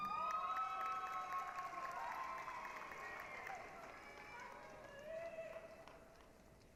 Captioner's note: applause, cheering